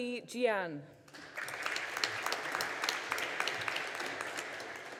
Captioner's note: audience applauding